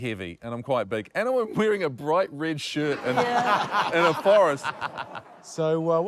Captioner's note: laughter